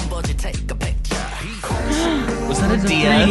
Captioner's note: gasp